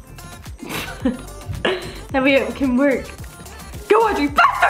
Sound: laughs

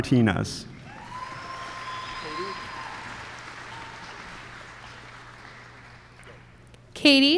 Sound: applause

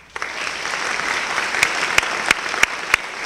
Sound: applause

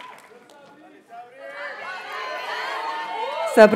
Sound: audience cheers and applauds; students chant

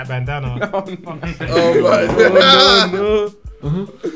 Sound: everyone laughing

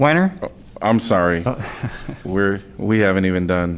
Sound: laughter

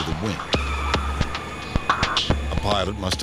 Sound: tires screeching

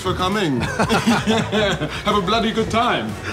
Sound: all laughing

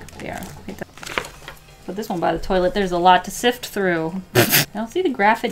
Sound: pffff

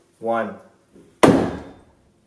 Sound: thump

